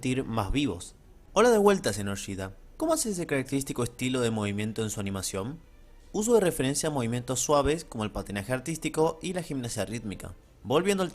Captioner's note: reading the same thing is Spanish